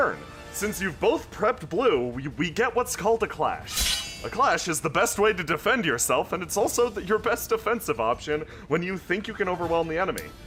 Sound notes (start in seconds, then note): 3.6 swords clashing